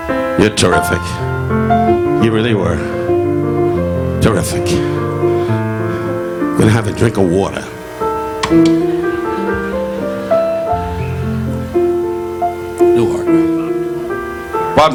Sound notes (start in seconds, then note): 0.0 relaxing piano music; 4.4 Don breathing heavily; 8.5 audience laughing; 12.7 relaxing piano music continues